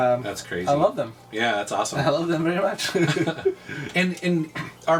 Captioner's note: laughs